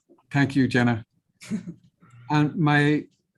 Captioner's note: chuckles